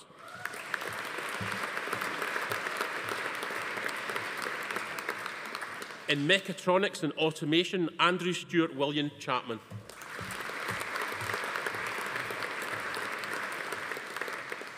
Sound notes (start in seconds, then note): 0.0 audience applauding; 0.1 attendee cheering; 9.8 audience applauding